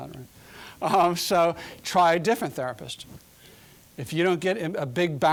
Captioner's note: chuckling